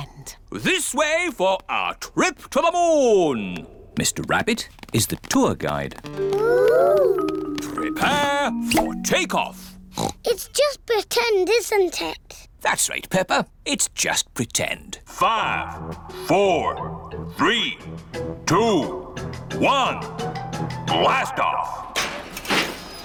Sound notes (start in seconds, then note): 9.8 oinks; 15.6 on speakers